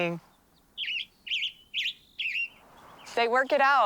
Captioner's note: bird singing